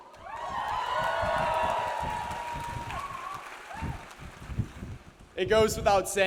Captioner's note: audience cheers; audience applauds